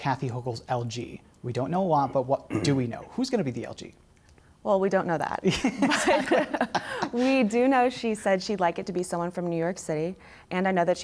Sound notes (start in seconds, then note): 2.8 laughter